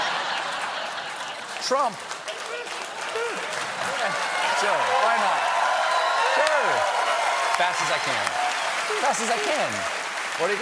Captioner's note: laughter